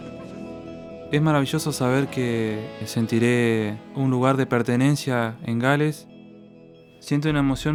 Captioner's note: in Spanish